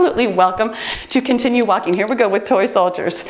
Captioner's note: timer beeps